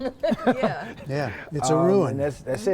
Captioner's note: laughter